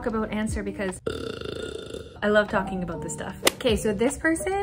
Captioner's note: belches